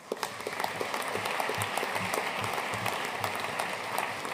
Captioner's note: audience applauding